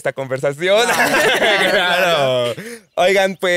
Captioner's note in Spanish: Risas